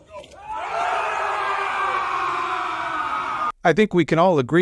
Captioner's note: more screaming